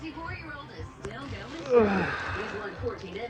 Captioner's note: groans